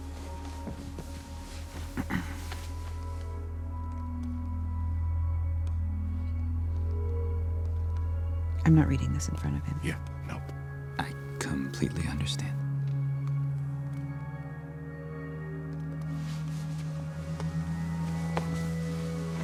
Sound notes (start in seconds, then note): 1.7 gentle music; 2.0 Bradford clears throat